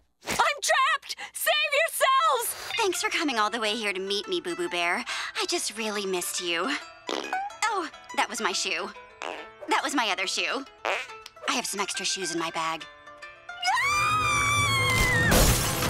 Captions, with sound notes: I'm trapped! Save yourselves! Thanks for coming all the way here to meet me, Boo-Boo Bear. I just really missed you. [farting sound] Oh, that was my shoe. [farting sound] That was my other shoe. [farting sound] I have some extra shoes in my bag. [screaming]